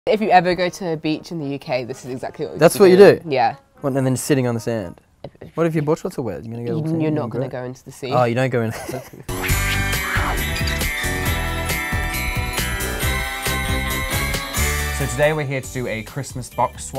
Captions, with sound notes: - If you ever go to the beach in the UK this is exactly - This is what you do? - Yeah. - Well, then your sitting on the sand. What if your board shorts are wet? - Then you're not gonna go into the sea. - Oh, you don't go. (laughing) (upbeat Christmas music) - So, today we are here to do a Christmas box swap